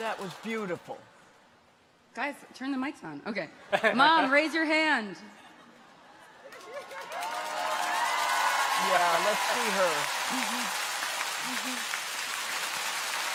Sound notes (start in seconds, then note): 6.4 audience chuckles; 6.5 audience applauds; 6.5 audience cheers; 8.8 clappers clacking